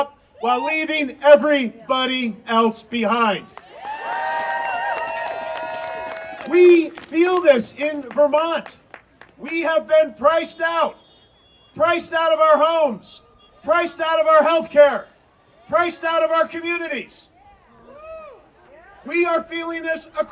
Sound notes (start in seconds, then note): 3.6 audience cheering; 17.8 audience cheering